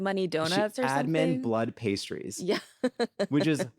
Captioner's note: laughs